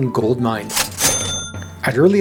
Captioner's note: cash register